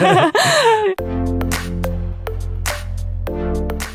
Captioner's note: laughs